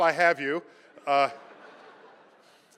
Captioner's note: laughter